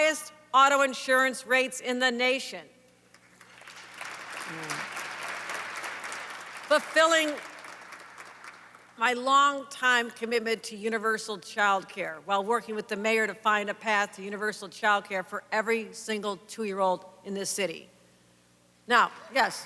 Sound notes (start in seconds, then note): 3.1 applause